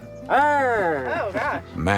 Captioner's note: growls